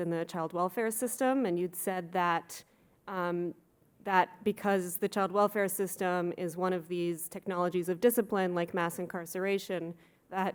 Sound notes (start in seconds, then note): none